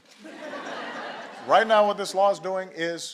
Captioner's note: laughter